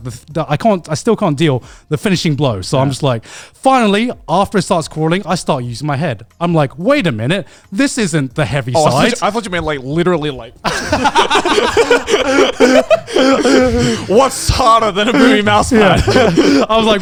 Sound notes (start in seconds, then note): 10.6 speakers laughing